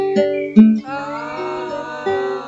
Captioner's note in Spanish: Ooooooo